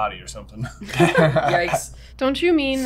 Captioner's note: laughter